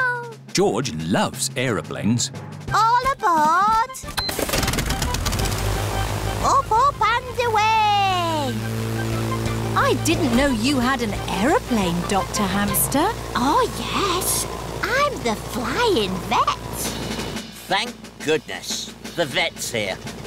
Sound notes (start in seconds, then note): 3.7 engines whirring